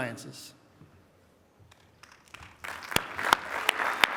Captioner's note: applause